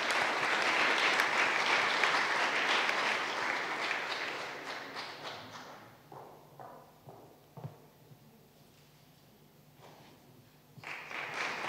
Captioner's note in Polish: oklaski